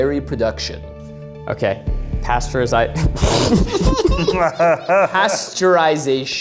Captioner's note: group laughs